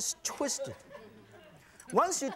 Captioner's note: audience titters